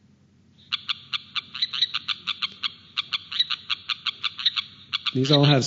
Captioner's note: sound of striped rocket frog calling